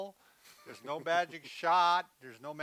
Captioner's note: laughs